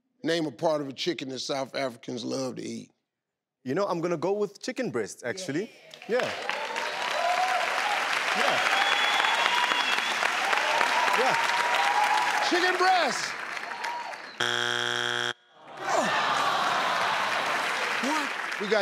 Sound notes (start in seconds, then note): 5.9 crowd applauds; 14.4 buzzing sound; 15.5 crowd; 15.7 crowd claps